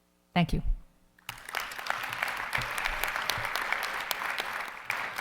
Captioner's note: audience applauding